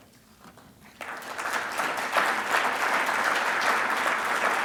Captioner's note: audience applauding